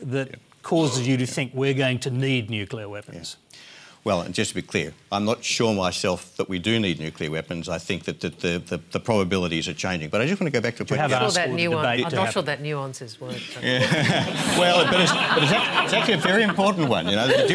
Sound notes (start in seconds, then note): 13.4 laughter